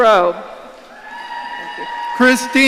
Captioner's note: audience cheering